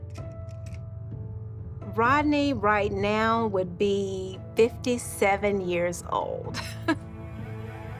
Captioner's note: chuckles